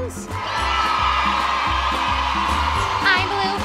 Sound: kids cheer

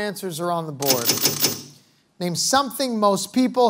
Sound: panels clicking

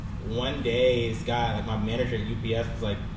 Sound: none

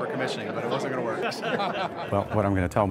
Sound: laughing

